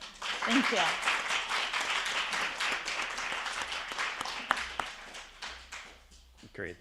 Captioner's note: attendees applauding